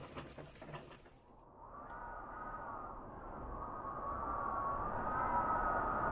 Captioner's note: howling wind